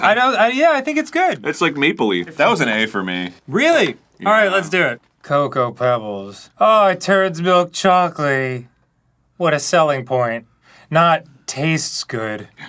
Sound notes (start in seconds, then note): 5.3 unenthused